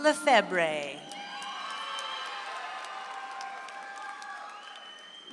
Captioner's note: audience applauds